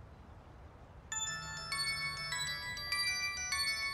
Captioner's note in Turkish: Telefon çalar